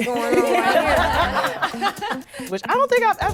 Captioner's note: laughing